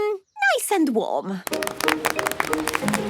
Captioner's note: applause